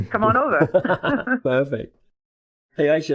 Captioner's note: laughing